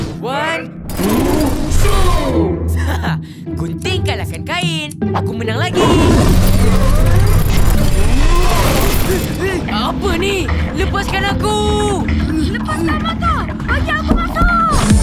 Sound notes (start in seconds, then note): 5.7 angry growling